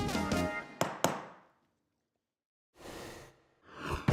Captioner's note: gavel taps; rushing sound plays